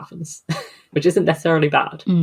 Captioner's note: laughs